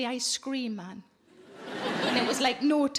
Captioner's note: audience laughing